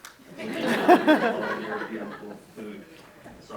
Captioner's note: attendees laugh